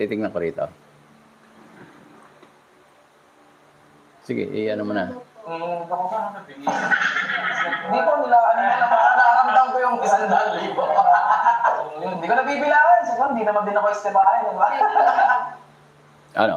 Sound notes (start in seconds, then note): 10.3 laughter; 15.3 laughter